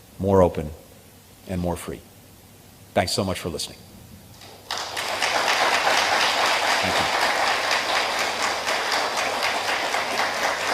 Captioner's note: applause